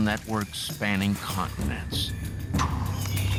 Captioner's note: puffs